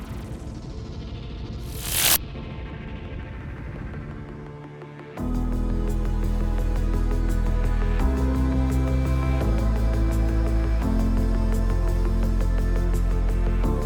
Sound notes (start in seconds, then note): 1.6 electricity buzzing; 4.9 somber music